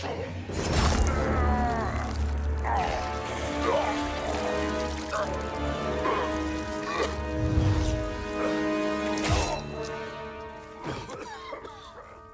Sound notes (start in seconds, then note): 0.8 Goro noises from MKX